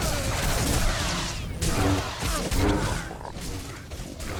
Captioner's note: gunshots